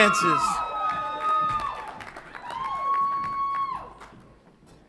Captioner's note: audience applauds and cheers